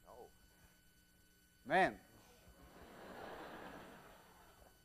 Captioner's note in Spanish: Clase ríe